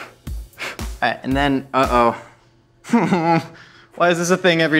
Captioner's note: giggles